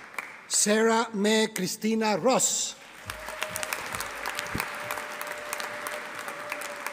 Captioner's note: audience applauding